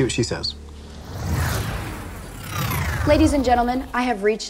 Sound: synthesized whooshing

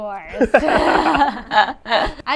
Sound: laughs

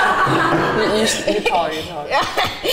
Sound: laughter

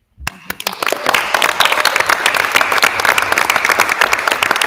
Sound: attendees applauding

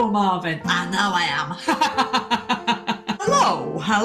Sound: laughs

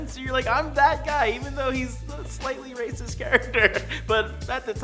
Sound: laughs

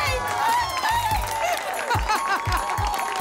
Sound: applause and cheering; laughs

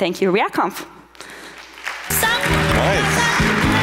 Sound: audience applauds

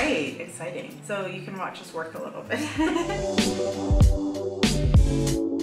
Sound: laughs

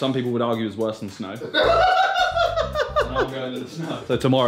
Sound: laughing

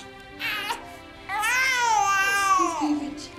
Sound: baby crying

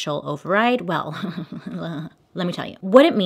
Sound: sarcastic laugh

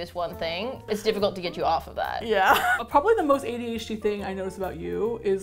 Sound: laughs

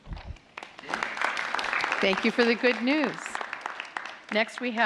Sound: applause

